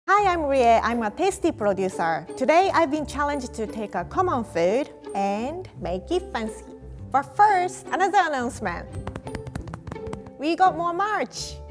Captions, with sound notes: (upbeat music) - Hi, I'm Rie, I'm a "Tasty" producer. Today, I've been challenged to take a common food and make it fancy. But first, another announcement. (chest thumping) We got more merch.